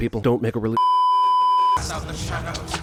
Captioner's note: beeeeeeeeeeeep